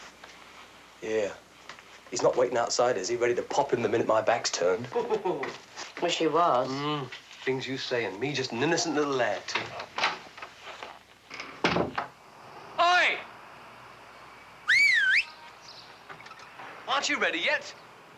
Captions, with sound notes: YEAH. HE'S NOT WAITING OUTSIDE, IS HE? READY TO POP IN THE MINUTE MY BACK'S TURNED? I WISH HE WAS. THE THINGS YOU SAY, AND ME JUST AN INNOCENT LITTLE LAD. HEY! [whistles] AREN'T YOU READY YET?